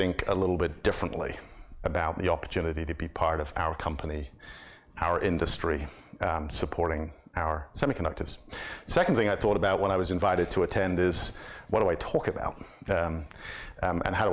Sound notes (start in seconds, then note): none